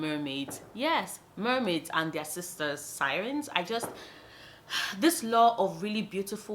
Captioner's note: sigh